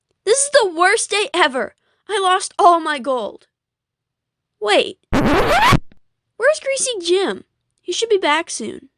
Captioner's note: record scratch